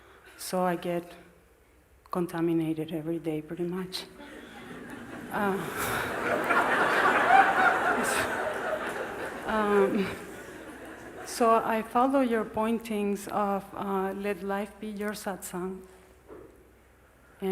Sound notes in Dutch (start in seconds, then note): 4.2 gelach